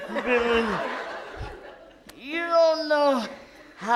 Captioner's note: audience laughs